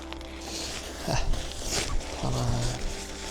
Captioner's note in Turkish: homurdanır